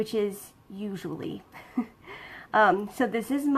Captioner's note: laughs